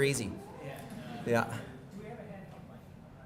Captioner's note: audience Murmuring